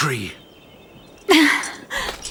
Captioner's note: gasp